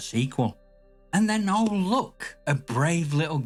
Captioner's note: back to pitying storyteller voice